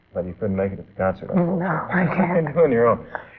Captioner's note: laughing